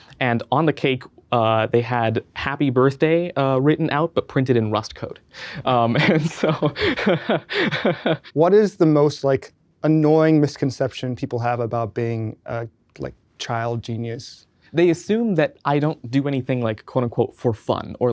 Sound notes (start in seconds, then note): 5.7 chuckles